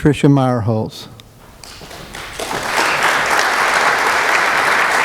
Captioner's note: applause